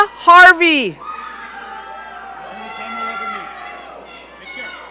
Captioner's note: audience cheering